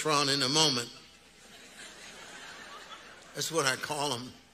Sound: audience laughing

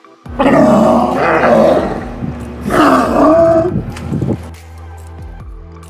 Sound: sea lions chortling

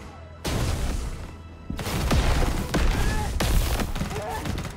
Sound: explosions

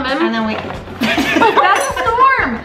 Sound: laughs; crashing

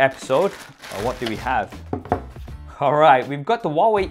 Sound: packaging crinkling; box thuds

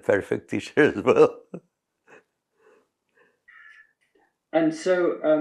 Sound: laughs

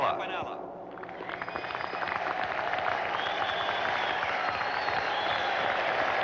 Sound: crowd applauding and cheering

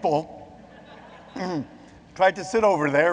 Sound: audience laughs

